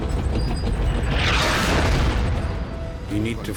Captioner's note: tank engines roaring; shell exploding